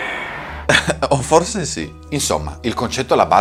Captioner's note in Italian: risata